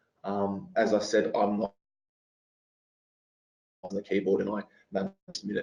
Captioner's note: audio distorts